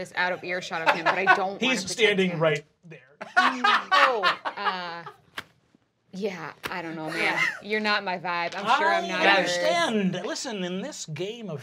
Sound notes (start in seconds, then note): 3.2 laughing